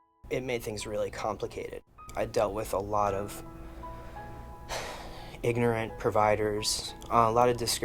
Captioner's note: sigh